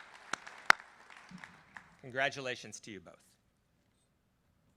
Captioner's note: applause